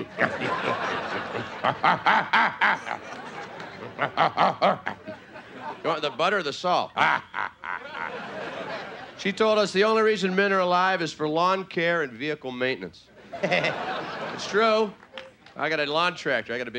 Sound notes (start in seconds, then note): 0.0 playful grunting; 0.3 audience laughing; 1.8 playful grunting; 3.3 audience laughing; 7.0 audience laughing; 7.0 playful grunting; 13.2 audience laughing; 13.2 laughing